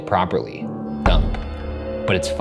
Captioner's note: window thumps